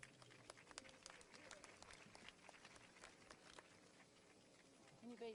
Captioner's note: audience applauds